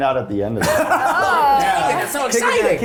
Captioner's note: laughing